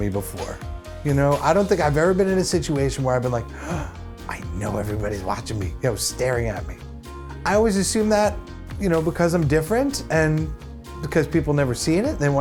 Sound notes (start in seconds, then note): 3.5 gasp